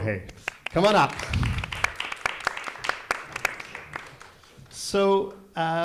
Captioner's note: audience applauding